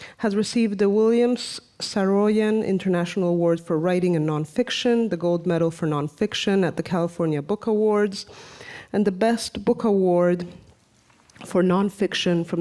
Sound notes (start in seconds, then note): none